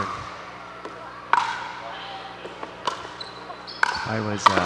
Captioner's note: ball bouncing